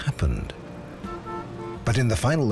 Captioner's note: car horn honks